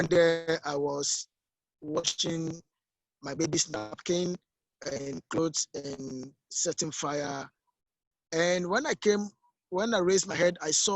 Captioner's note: audio connection unstable